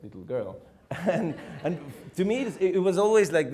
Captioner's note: laughing